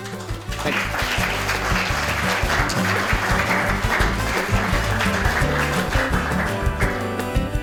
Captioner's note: applause; closing music